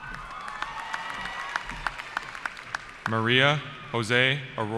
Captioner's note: cheering